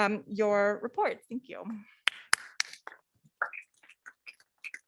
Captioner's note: clapping